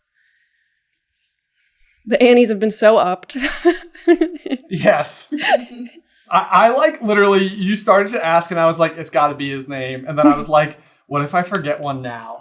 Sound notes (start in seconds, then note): 3.4 laughing